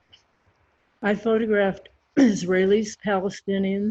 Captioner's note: clears throat